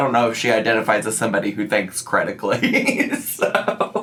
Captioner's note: laughs